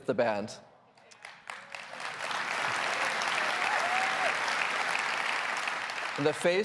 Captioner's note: applause